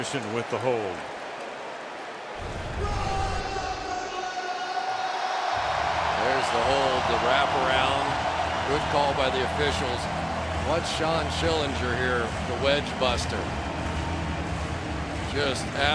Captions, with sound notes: Colt Anderson with the hold. [pa announcement] [cheering] There's the hold, the wraparound. Good call by the officials. Watch Shann Schillinger here, the wedge buster.